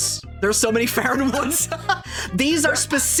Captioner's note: laughing